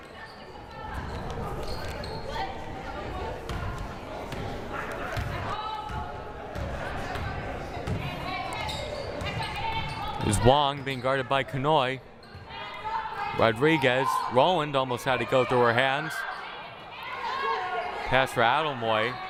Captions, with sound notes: (crowd murmuring) (players shouting) Here's Wong, being guarded by Kanhoye. Rodriguez, Rolland almost had it go through her hands. Pass for Aldamuy.